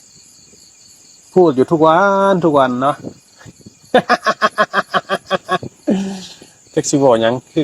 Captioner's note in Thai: เสียงหัวเราะ